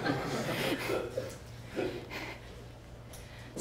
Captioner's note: laughs